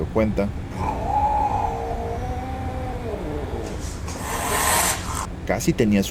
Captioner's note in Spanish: Sonido de gato enojado y bufando